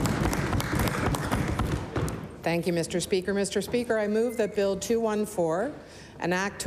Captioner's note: applause